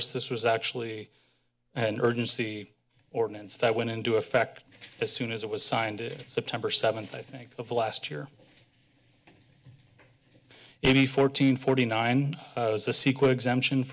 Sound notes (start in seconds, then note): none